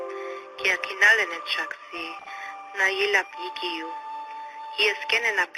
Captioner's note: speaks in native language